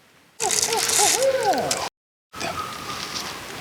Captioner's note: faint howl